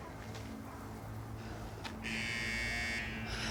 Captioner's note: alarm blares